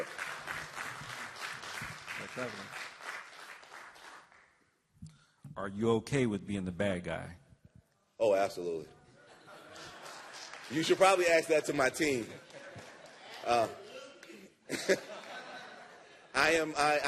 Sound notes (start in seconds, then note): 2.1 applause; 9.1 laughter; 9.7 applause